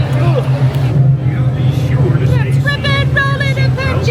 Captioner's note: crowd murmuring